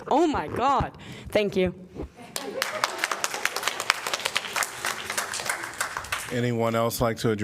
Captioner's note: applause